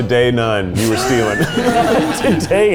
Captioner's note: all laughing